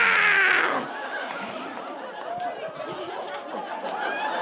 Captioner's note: audience laughing